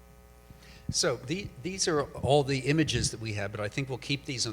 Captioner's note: voiceover